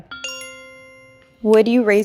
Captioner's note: bell chimes